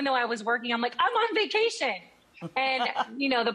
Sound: chuckles

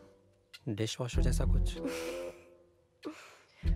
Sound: chuckles

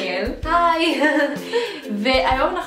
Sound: ציחקוק

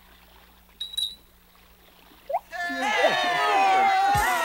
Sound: all cheer

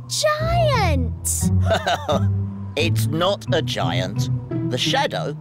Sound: laughs

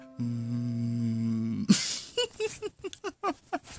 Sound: laughing

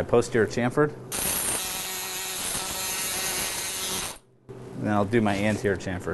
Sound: drilling sound

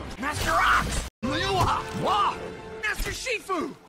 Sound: kung fuiey noises

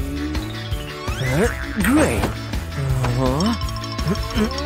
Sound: groans

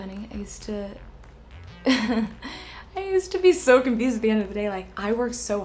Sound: laughs

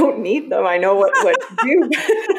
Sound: laughing; laughs

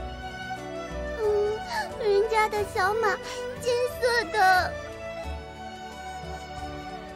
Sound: sob

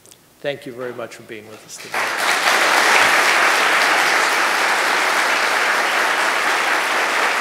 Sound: applause

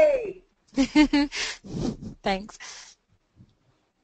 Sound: laughs

